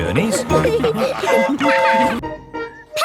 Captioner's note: train whistle toots